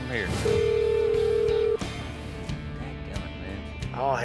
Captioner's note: phone ringing